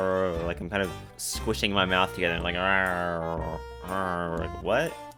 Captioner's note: another weird mouth noise; weird mouth noise